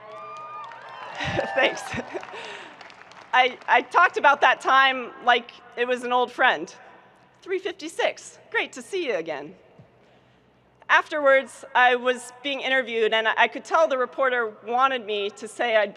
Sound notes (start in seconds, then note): 0.0 audience cheering and applauding; 1.1 giggles